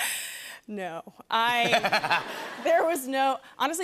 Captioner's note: laughs; laughter